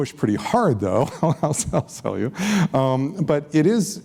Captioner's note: laughs